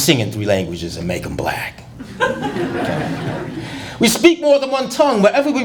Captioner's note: laughter